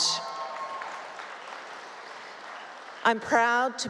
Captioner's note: cheering